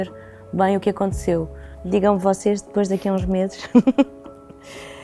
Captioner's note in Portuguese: risos